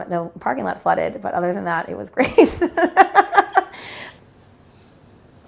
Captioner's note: laughs